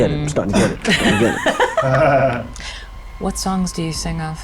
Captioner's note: participants chuckling